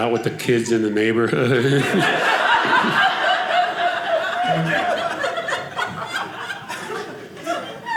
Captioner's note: audience laughing